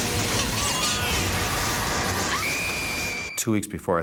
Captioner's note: screams